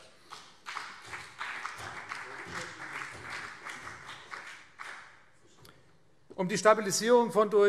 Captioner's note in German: Beifall CDU und BÜNDNIS 90/DIE GRÜNEN